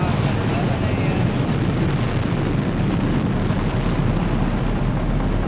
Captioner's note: rocket roaring